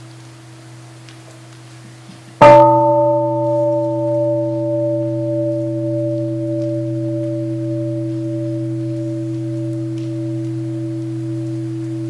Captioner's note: third sound of the bell